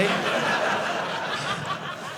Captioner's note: audience laughing